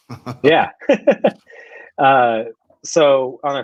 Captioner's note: laughs